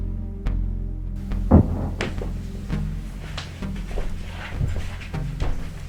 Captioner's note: distant thudding